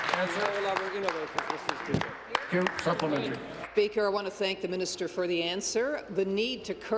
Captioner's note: applause